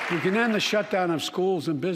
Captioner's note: applause